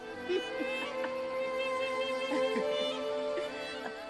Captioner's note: Ara laughing